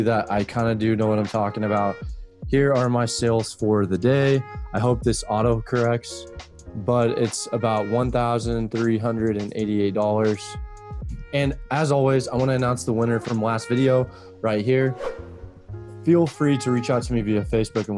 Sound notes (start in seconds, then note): 14.9 whooshing